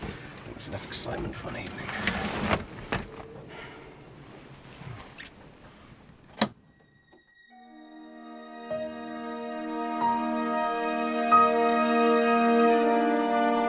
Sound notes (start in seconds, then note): 5.1 kissing; 6.5 click; 6.5 dark melancholic music